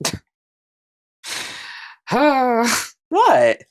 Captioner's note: sigh